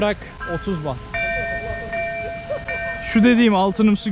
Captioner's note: bell sound